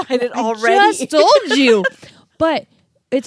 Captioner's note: laughs